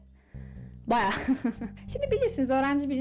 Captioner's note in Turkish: güler